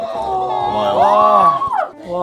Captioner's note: haha